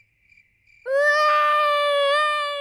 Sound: baby alexander crying

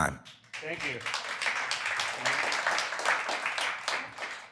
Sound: applause

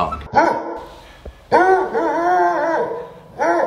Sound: Dale barking

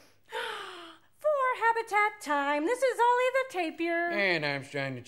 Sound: sighs

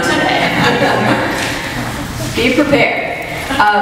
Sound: audience laughs

